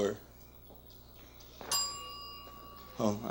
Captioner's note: bell dings